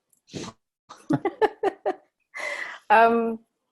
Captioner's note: laughs